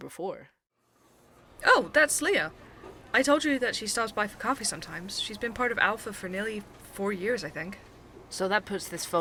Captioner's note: coffee shop ambience